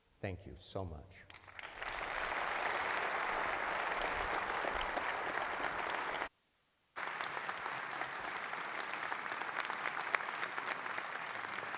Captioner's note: applause